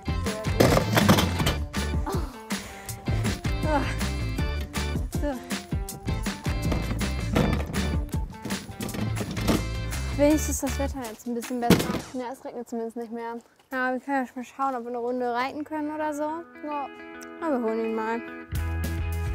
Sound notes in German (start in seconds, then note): 2.0 stöhnt